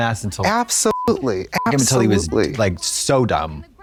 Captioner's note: beep